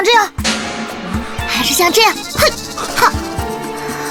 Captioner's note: heh-heh